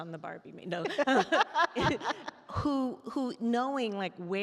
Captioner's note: both laugh